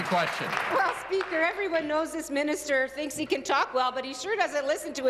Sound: applause

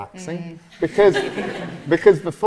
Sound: audience laughs

